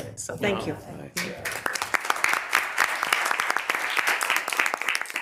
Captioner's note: committee applauds